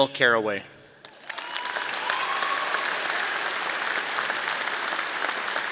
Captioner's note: audience cheering